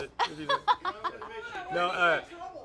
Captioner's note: laughs; background chatter